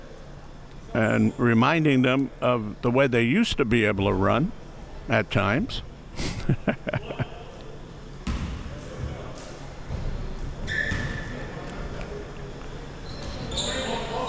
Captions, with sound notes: and reminding them of the way they used to be able to run at times. (laughs)